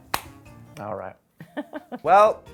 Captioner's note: laughing